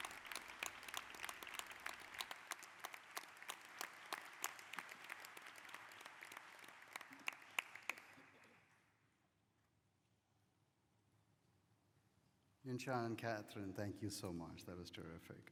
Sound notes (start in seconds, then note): 0.0 applause